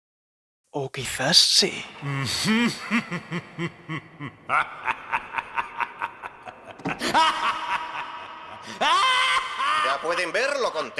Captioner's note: with a shaky voice